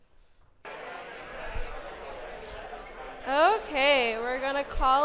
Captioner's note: audience mumbling